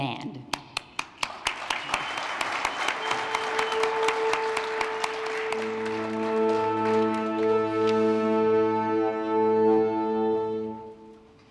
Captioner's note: applause